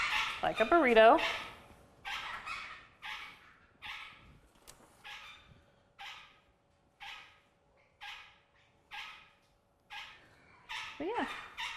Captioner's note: birds chirping